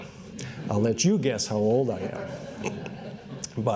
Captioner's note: laughter